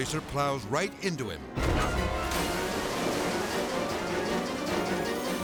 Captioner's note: intense music; water splashes